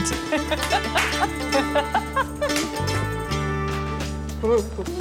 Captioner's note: laughs